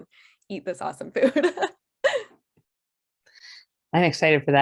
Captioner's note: laughing